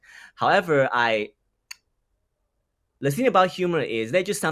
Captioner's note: mouth clicks